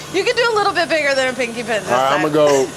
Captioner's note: laughs